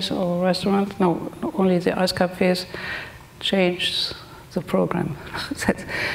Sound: laughs

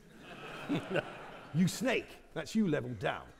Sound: audience laughing

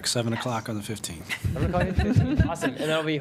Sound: laughter

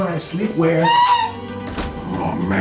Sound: goose squawks

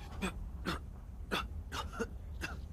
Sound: coughing

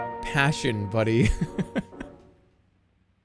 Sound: chuckles

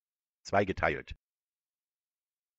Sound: fast Pronunciation

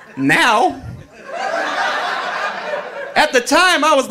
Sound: audience laughing

